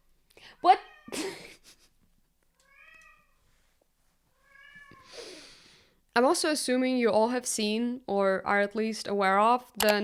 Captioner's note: Count Vasiliy meows